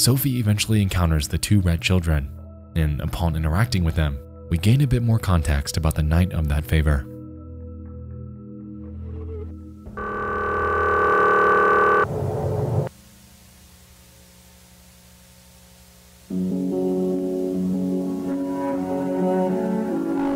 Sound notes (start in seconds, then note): 9.9 distorted buzzing; 16.5 brooding orchestral music